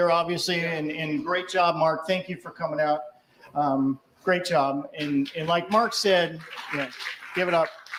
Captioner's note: applause